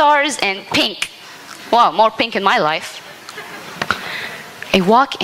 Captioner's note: laughter